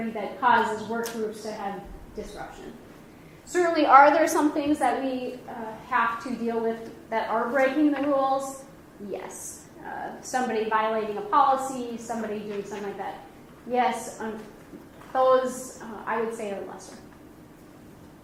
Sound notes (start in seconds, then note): none